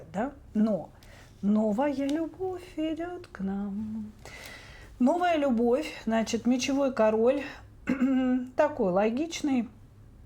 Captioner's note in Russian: откашливается